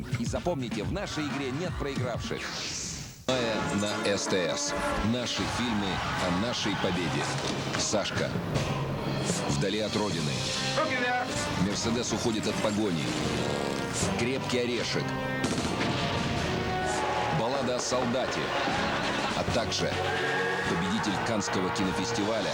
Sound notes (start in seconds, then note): 15.4 shots; 16.0 disturbing music